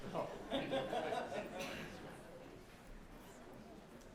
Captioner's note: audience laughing